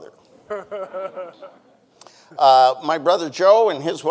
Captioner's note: panelist laugh; audience chuckling